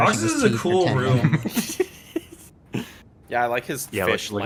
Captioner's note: laughing faintly